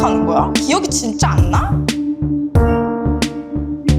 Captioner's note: speaking Korean; intense music